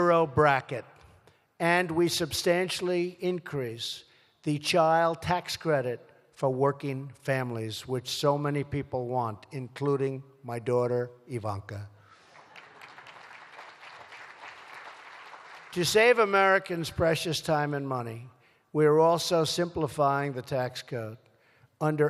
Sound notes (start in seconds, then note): 12.2 applause